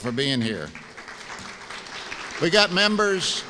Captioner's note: applause